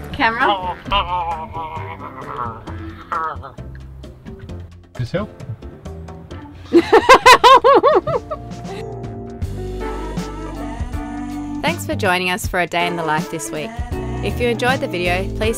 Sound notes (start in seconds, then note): 0.3 gargles; 6.7 laughs; 9.6 relaxed funk music